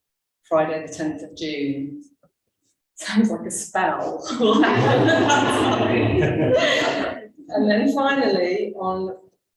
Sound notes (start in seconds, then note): 4.2 laughter